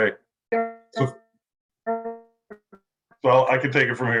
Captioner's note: audio continues to distort